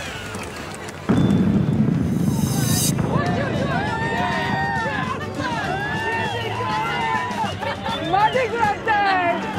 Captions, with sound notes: [ ALL CHEERING ] MARDI GRAS TIME!